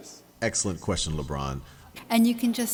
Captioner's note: voiceover